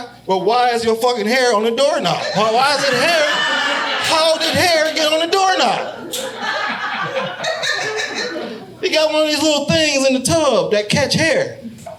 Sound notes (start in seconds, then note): 2.2 audience laughing